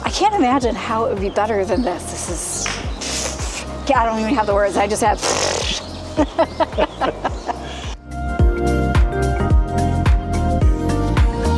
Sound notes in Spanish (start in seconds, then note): 6.1 Risas